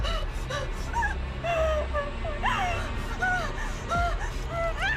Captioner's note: Maria sobbing